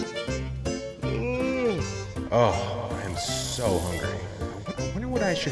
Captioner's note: yawns